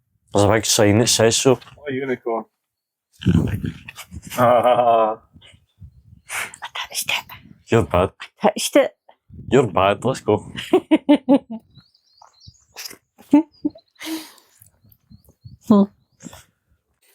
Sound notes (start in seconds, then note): 3.2 laughs; 10.4 unicorn Laughs